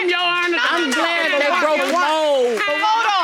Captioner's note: all arguing; arguing continues